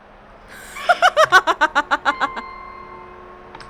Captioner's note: laughs